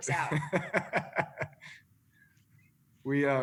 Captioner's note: laughter